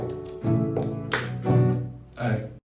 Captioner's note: rhythmic tongue tapping